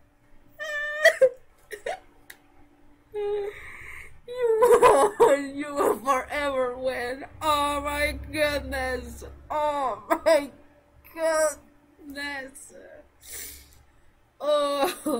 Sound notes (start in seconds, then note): 0.6 sobbing; 3.1 sad noises